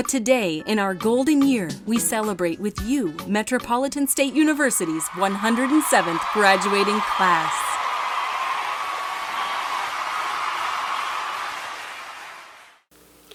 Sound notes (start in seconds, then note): 8.9 cheering